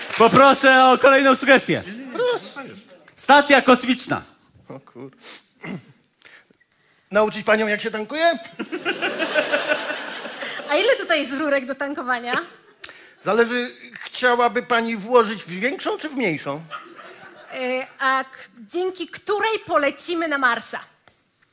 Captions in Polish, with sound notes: - Poproszę o kolejną sugestię. Stacja Kosmiczna. - Nauczyć panią jak się tankuje? [ŚMIECH] - A ile tutaj jest rurek do tankowania? - Zależy. Chciałaby pani włożyć w większą czy w mniejszą? - A dzięki której polecimy na Marsa?